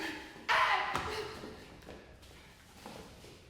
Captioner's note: shrieking